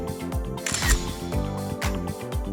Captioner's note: upbeat music; camera clicks; upbeat music